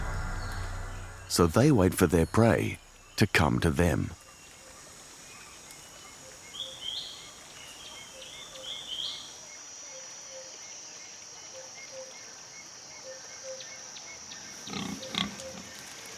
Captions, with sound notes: So they wait for their prey to come to them. [birds chirping] [grunting]